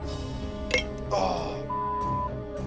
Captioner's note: bottle chimes; beep